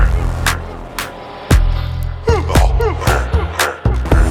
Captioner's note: grunting